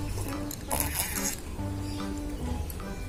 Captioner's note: sluuuuuurrrr